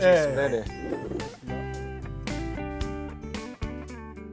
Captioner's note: the first recording begins with warm laughter